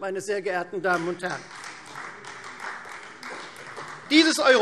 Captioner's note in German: Beifall Freie Demokraten